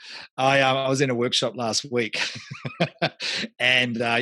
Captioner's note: laughs